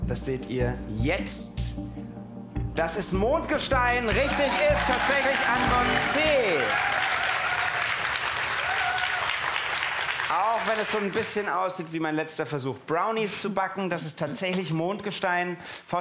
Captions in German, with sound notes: Das ist Mond-Gestein. Richtig ist Antwort C. *Jubel* Sieht etwas aus wie mein Versuch, Brownies zu backen. Aber es ist Mond-Gestein.